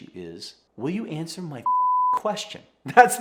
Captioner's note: beeps